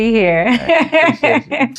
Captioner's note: laughs